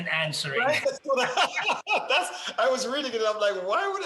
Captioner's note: laughing